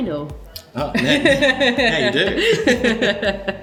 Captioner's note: laughs